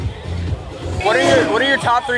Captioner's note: car revs